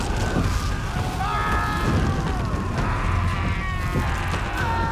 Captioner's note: men screaming